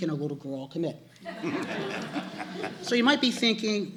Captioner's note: laughter